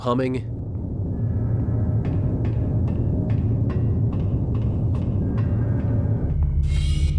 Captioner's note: spaceship ambience